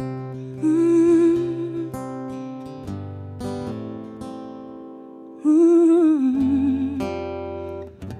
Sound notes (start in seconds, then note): 0.0 guitar strumming; 1.0 rhythmic humming